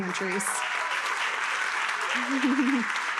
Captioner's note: attendees cheering and applauding; chuckles